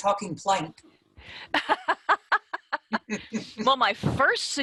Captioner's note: laughter